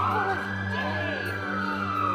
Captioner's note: sirens